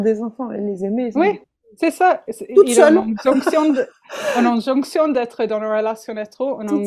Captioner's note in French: rires